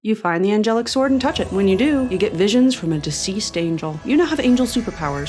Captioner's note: mystical twinkling